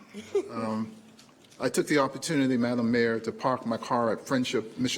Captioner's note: laughter